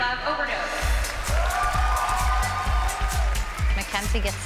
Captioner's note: cheering